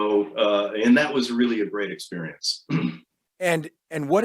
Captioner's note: clears throat